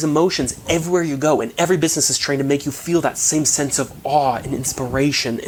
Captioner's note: chuckling